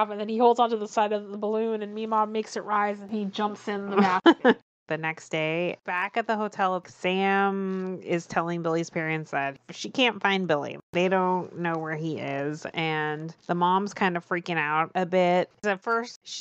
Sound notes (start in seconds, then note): 4.4 laughs